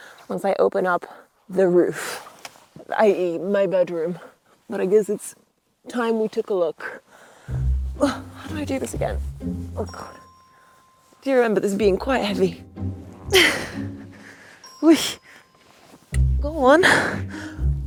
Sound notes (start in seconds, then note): 13.3 groans